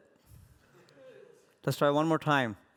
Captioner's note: laughter